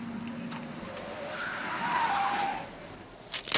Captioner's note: brakes screeching